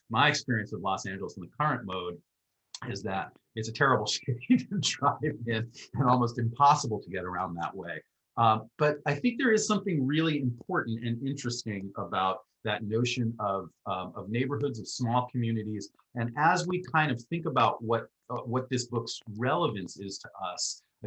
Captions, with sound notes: My experience with Los Angeles in the current mode, is that, it's a terrible (laughs) city to drive in and almost impossible to get around that way. But I think there is something really important and interesting about, that notion of neighborhoods and small communities. And as we kind of think about, what this book's relevance is to us,